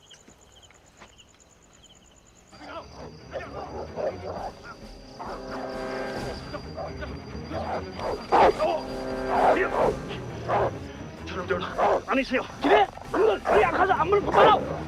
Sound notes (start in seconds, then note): 2.6 soldiers Shouting In Korean; 2.6 dogs Barking; 6.6 shouting Continues; 7.5 barking Continues; 10.6 Korean; 10.6 shouting in Korean